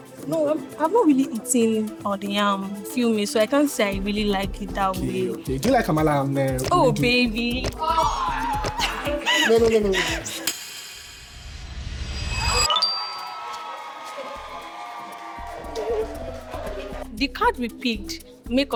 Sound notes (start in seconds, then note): 7.8 screaming; 13.1 screaming